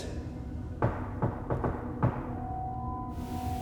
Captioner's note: knock rapping